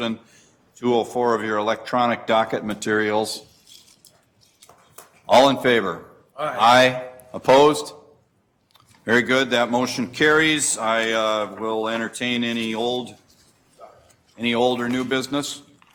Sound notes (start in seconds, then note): 6.4 multiple voices